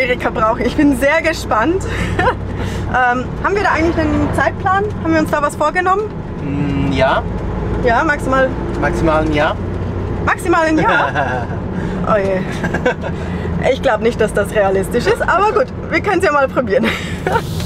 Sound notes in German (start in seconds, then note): 12.5 lacht